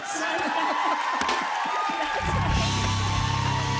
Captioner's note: cheers and applause